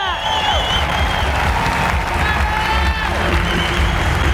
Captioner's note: audience applauds